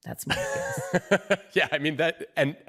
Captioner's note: laughs